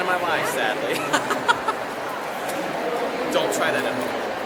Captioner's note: laughs